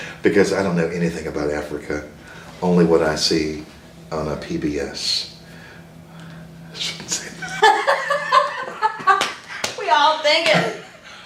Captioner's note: laughter